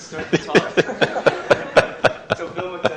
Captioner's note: laughter